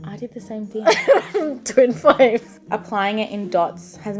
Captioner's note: laughs